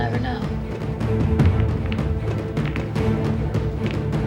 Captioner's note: pool balls colliding